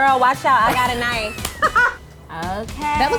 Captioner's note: laughter